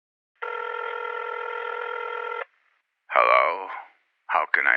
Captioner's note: phone rings